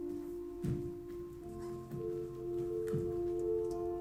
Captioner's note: footsteps thumping